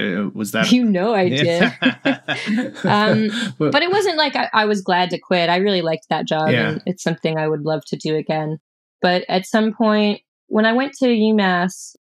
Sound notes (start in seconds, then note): 1.3 laughter